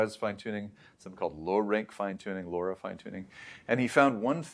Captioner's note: inhales